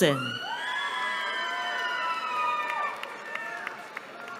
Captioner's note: cheering